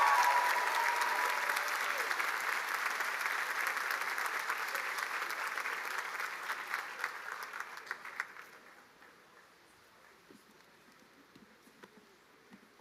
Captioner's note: cheers and applause